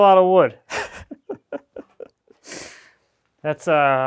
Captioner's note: chuckling